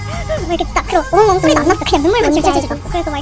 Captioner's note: weeping